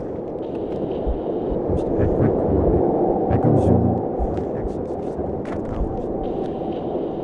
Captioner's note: radio static continues